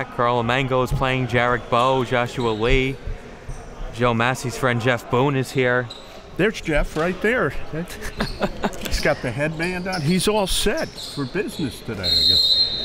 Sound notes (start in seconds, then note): 7.9 laughing; 12.0 whistle blows